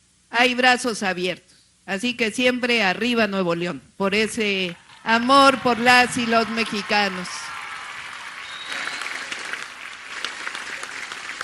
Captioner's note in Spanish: aplausos